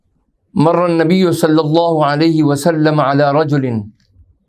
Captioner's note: arabic